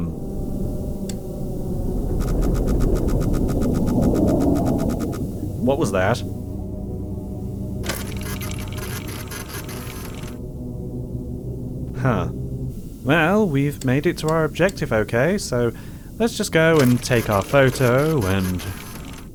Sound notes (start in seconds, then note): 0.3 sub engine purrs; 2.1 proximity sensor beeps rapidly; 4.1 muffled growl passes; 7.8 photo station clicks and whirrs